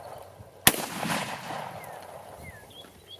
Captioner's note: gun fires